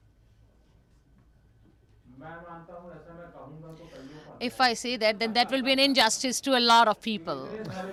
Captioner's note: through translator